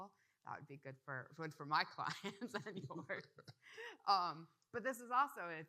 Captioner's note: laughs